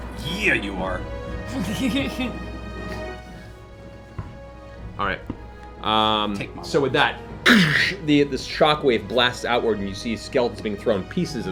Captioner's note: blast